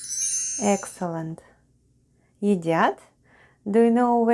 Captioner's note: chime sound